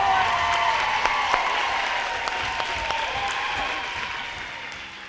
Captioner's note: crowd cheers loudly